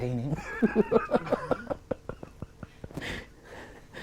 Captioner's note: laughing